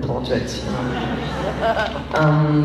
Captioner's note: laughs